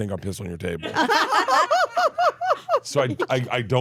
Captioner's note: laugh